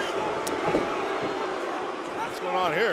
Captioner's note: crowd cheering